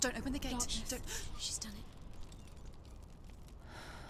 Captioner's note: gasp